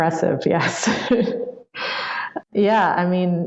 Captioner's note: laughs